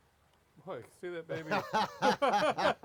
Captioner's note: laughs